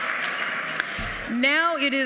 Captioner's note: applause